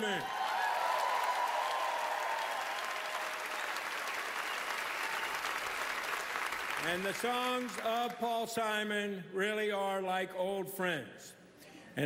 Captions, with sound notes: A Grammy Salute to the Songs of Paul Simon. (cheering, applause) And the songs of Paul Simon really are like old friends.